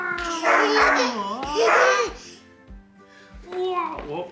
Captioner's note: dog barks